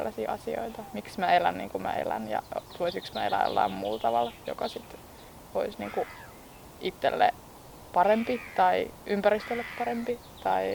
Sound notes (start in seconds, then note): 5.8 disrupting seagull